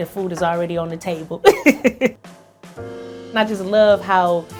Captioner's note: chuckles